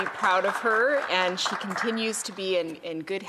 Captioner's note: some Applause